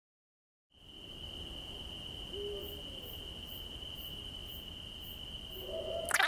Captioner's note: cricket noises